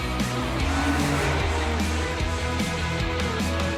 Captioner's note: car engine revving; dynamic instrumental music